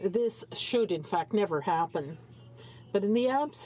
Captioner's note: speaking in french